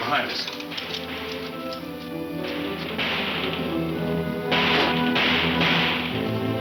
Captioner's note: guns shooting in the distance